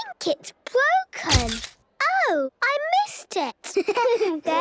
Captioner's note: camera clicks; giggling